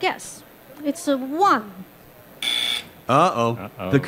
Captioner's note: buzzer